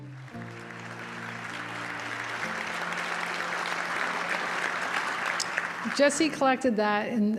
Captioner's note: applause